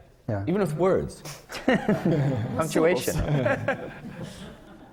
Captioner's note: laughter